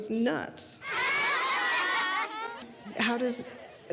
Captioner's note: children clamoring